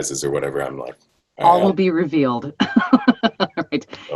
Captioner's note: laughter